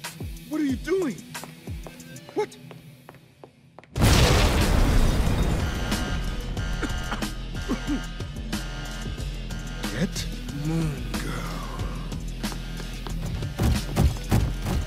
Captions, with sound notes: What are you doing? What? -(alarm blares) -(coughs) Get Moon Girl.